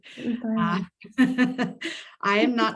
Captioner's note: audio warbles; laughs